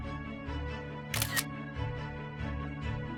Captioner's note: camera shutter sound